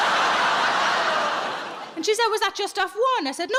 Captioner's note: audience laughs